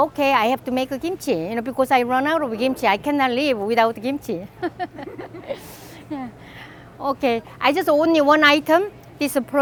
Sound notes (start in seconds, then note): 4.5 laughs